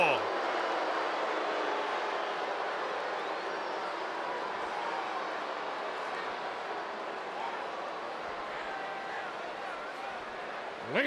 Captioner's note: applause